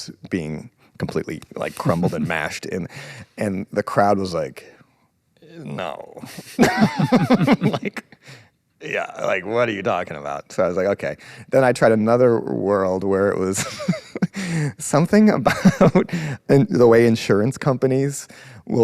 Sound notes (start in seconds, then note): 6.2 both laughing; 14.3 laughs